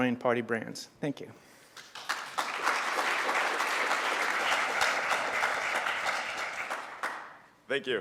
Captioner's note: applause